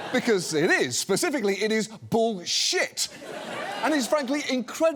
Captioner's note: studio audience laughs